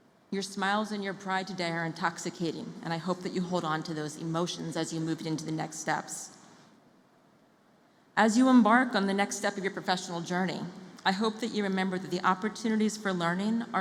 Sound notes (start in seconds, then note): none